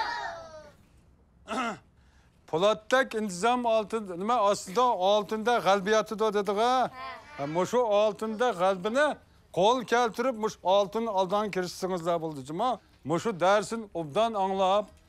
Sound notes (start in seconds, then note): 1.4 clears throat